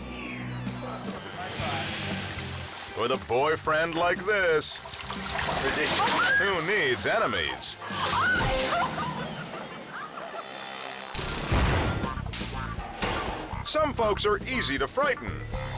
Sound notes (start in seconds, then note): 0.3 whimsical music continues; 5.0 water splashes; 6.0 girlfriend screams; 7.9 girlfriend screams; 11.1 countdown squeals; 11.9 whimsical music